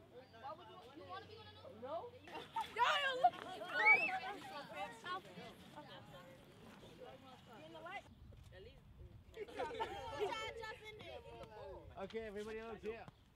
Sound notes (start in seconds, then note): 0.7 laughing; 6.5 all laughing